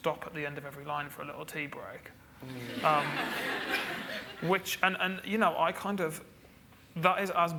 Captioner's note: audience laughs